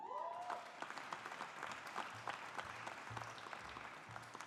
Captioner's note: audience applauding